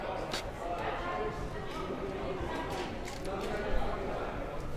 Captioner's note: crowd murmuring